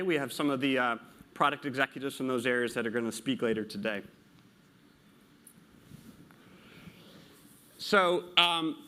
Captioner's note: pause